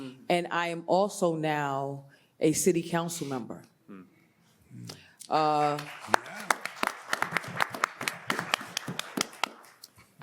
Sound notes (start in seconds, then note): 5.5 audience applauds